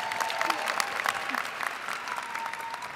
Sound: cheers and applause

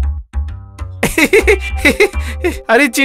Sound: laughs

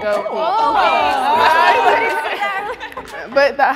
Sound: excited chattering

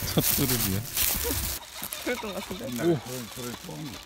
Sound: pheasant noises

